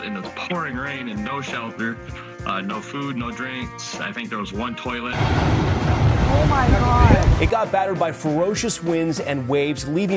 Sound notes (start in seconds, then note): 5.1 waves crashing